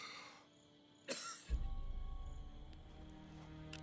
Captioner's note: man coughing